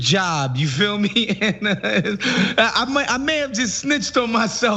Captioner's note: laugh